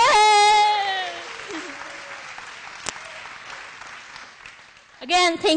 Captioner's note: applause